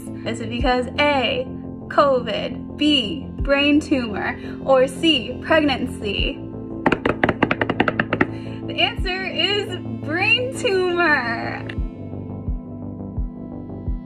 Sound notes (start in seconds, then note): 6.8 drums hands on desk; 11.2 gentle music